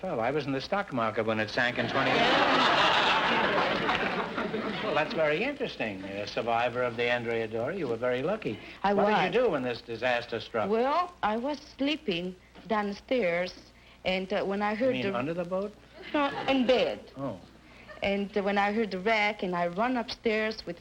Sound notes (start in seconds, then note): 1.6 audience laughter